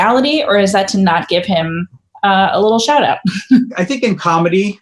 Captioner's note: chuckles